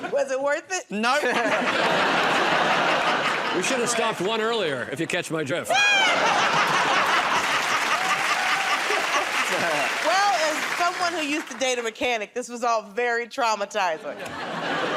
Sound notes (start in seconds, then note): 5.9 laughter; 8.9 applause